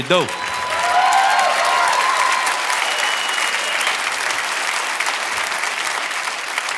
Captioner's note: audience cheering and applauding